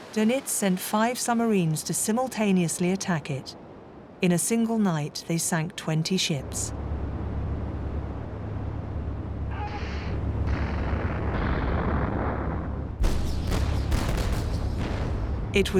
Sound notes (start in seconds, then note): 10.4 explosions booms; 13.1 artillery blasting